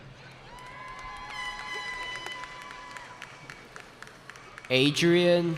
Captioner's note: cheering